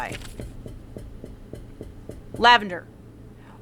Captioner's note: Lavender starts tapping her foot